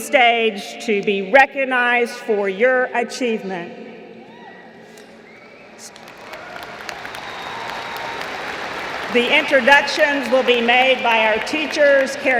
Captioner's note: applause